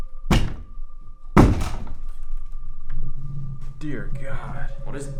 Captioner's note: door thumps